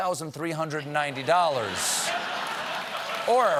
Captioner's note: laughter; applause